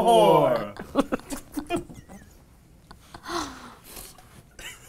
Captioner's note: all laugh